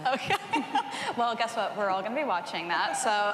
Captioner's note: chuckles